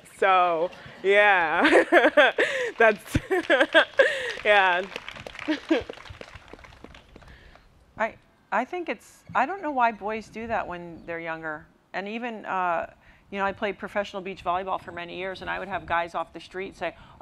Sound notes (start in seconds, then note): 0.7 laughs; 4.5 applause